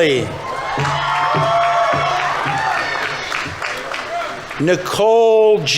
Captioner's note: audience members cheering; audience applauding